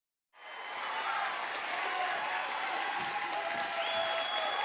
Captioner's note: audience applauding